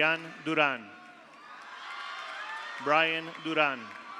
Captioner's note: audience cheers; audience applauds